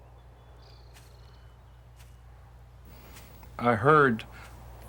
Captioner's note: footsteps